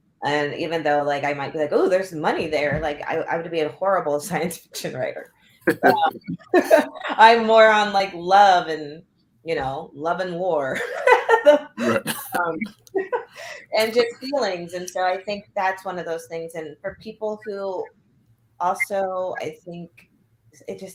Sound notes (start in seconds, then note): 10.7 laughter